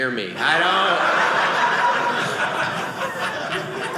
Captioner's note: audience laughing